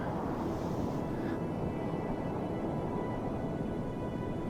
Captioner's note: wind whooshing